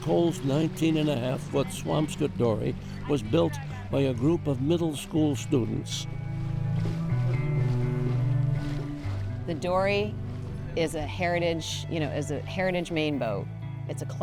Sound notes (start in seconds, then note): 7.2 water rippling